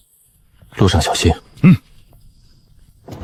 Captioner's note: swallows